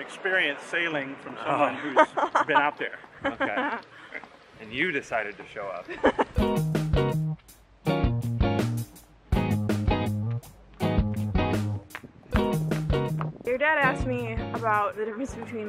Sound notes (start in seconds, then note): 5.8 laughter